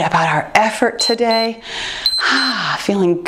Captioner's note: timer beeps